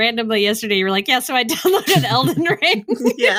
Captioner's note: laughter